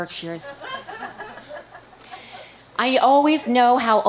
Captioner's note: audience laughing